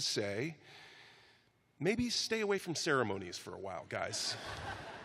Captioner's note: laughter